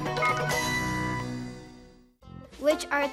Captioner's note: phone beeps